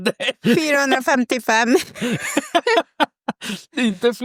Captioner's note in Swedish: skratt